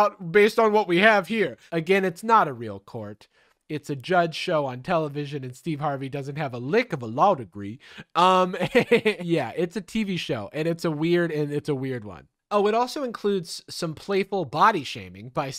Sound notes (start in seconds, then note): 8.3 laughing